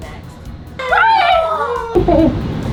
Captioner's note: bianca yells